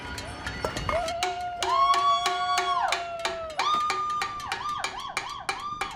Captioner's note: Liz cheering